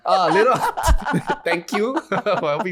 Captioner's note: laughing